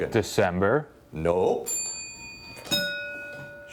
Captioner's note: bell dinging